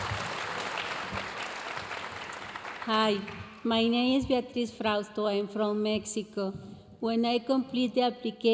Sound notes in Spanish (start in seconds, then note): 0.0 aplausos y vítores de la audiencia; 2.9 hablando en inglés